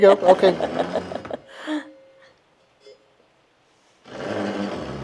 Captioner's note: laughing